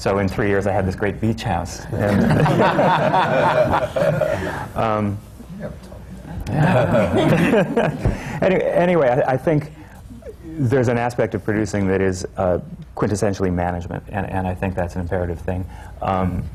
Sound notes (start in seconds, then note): 2.0 laughter